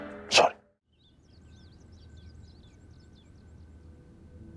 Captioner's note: birds chirping